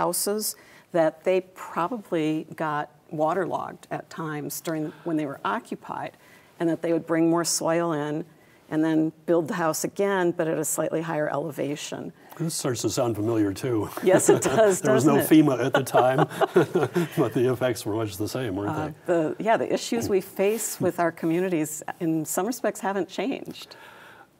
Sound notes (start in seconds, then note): 15.5 both laugh